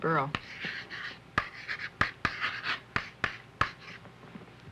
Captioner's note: chalk writing on slate board